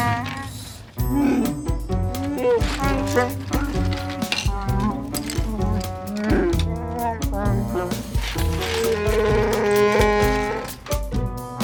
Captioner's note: Chewbacca sounds